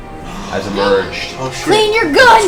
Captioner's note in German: Alle keuchen auf